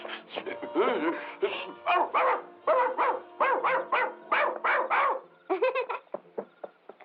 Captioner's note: barking